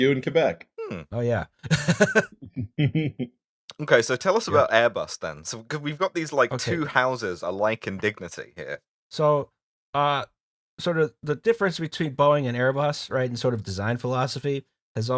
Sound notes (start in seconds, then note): 1.6 laughter